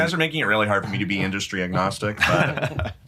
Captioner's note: chuckle